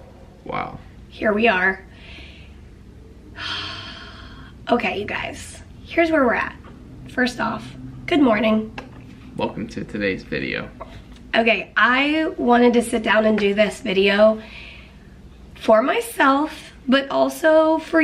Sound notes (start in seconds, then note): 3.4 heavy sigh